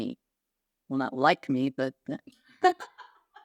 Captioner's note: laughing